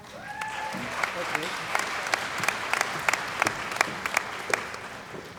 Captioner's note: cheering & Applause